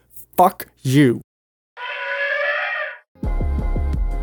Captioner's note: elephant trumpeting